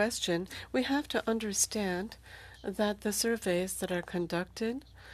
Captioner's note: speaking French